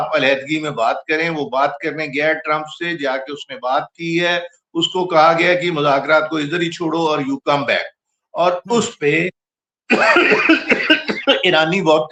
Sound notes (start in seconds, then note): 9.9 laughter